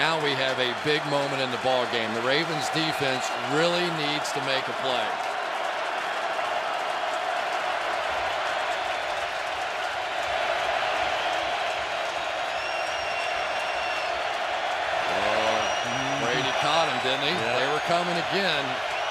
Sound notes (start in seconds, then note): 5.9 crowd cheering